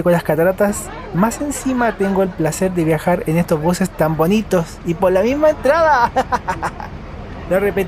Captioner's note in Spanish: risas